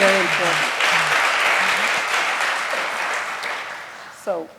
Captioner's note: applause